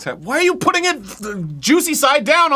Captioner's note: wet mouth sputtering